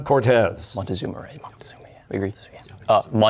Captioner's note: whispering